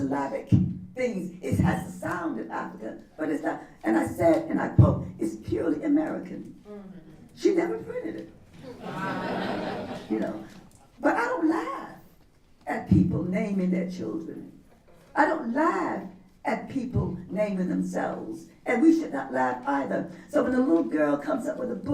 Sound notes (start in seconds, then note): 8.6 laughter